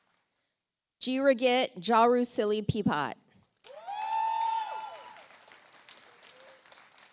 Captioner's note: audience applauds